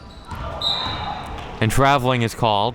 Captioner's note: whistle being blown